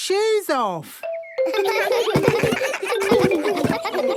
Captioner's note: giggles